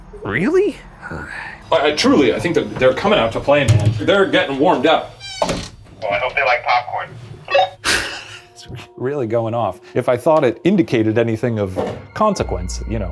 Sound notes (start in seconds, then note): 7.4 chuckles